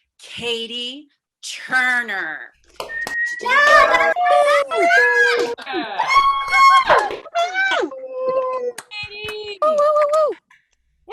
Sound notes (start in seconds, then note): 2.8 attendees applauding; 2.8 attendees cheering